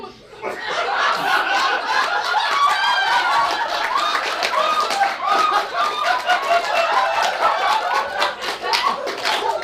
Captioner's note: audience laughs; audience laughs